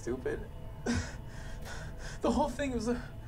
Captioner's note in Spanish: Respirando profundamente